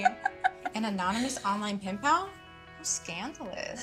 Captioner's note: laughing